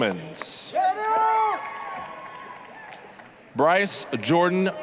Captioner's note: applause, cheering